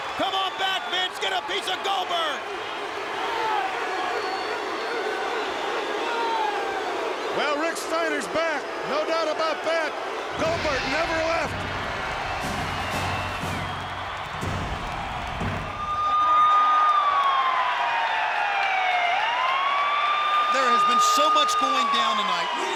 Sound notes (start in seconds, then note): 3.5 crowd barking; 12.5 dramatic music; 15.4 siren wailing